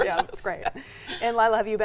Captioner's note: laughing